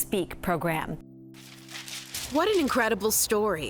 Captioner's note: paper fluttering